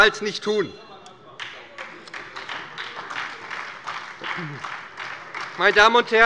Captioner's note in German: Beifall bei der SPD - Allgemeine Unruhe - Glockenzeichen der Präsidentin